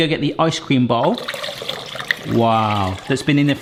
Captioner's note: liquid pouring